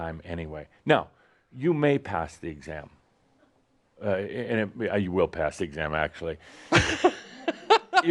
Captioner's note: laughs